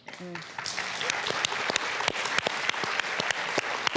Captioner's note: audience applauds